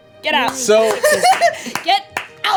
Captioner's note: clapping